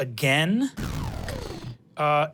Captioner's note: engine powering down